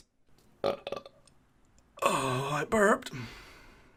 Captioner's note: Belch